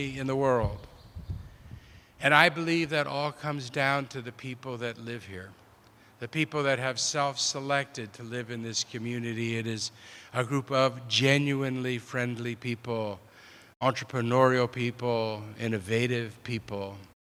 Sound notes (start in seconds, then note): none